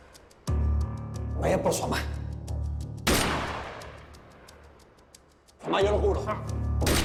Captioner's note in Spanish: Disparos; Disparos